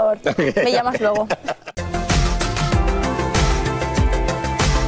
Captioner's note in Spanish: risas